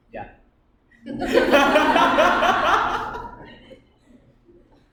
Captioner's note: laughter